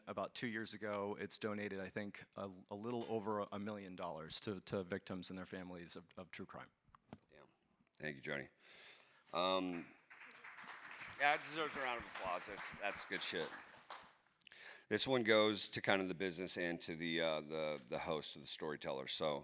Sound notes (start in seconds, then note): 9.4 audience applauds